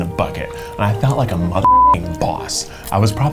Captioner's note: beep